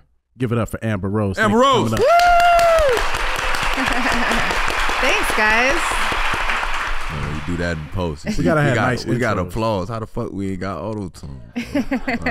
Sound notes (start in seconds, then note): 1.8 audience clapping; 11.5 all laughing